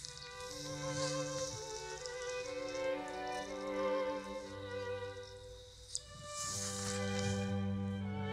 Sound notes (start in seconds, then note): 2.0 water splashes gently